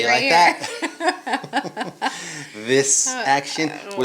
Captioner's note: both laughing